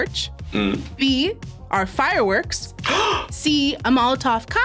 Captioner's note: gasps